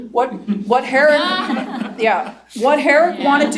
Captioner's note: laughter